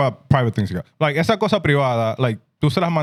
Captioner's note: speaking In Foreign Language